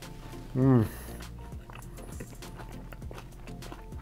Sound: food crunching

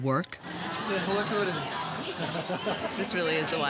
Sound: chuckles

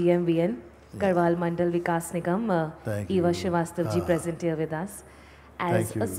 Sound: announcer speaks in Hindi

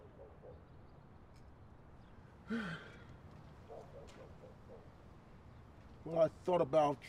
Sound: officer sighs

